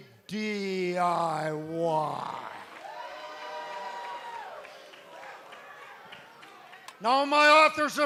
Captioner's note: cheers and applause